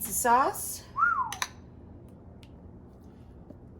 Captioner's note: whistles